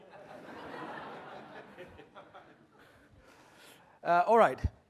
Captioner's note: audience laughing